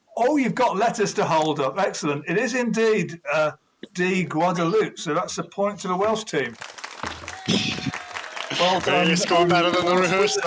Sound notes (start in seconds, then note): 6.4 applause